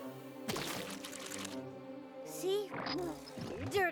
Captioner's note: squish!